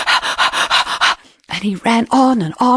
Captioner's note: lion panting